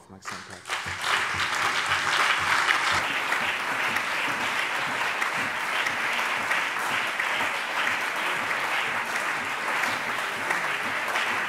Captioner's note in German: Beifall BÜNDNIS 90/DIE GRÜNEN, CDU, SPD, Freie Demokraten und DIE LINKE